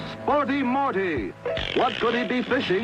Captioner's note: dramatic music; reel unwinding